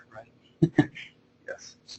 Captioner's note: chuckling